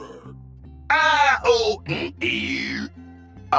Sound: shouts in pain

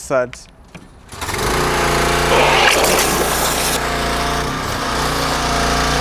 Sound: pressure washer engine whirring

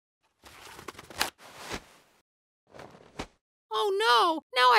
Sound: tissue rolling

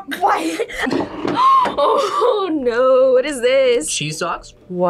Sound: gasps

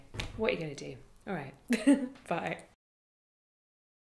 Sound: laughs

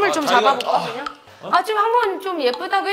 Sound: sigh

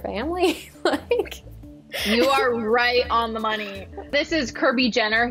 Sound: chuckles

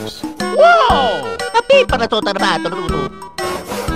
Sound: Mario speaking Italian

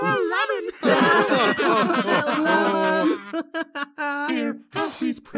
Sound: laughs; laugh

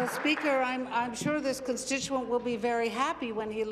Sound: applause

